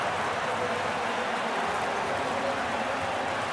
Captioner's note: crowd cheering